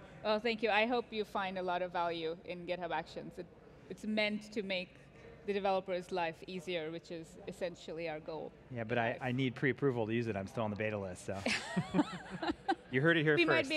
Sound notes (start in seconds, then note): 11.4 laughs